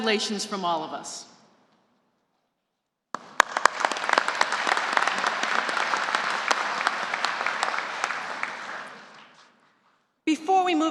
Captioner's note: applause